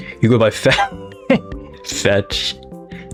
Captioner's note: laughs to myself